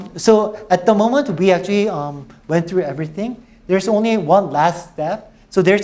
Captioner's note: none